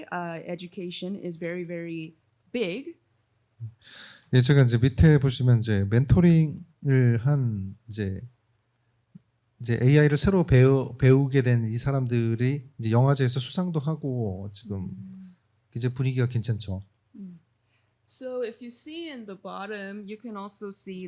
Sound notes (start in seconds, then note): 4.1 speaking korean